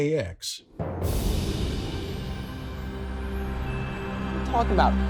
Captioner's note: soft music; wind whooshing